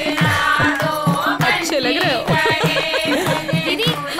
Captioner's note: Laughs